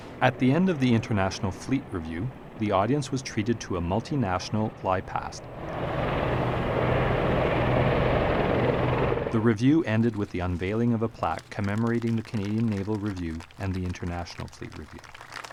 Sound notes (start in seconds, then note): 5.5 helicopter noise